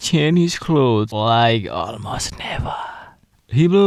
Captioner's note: whispering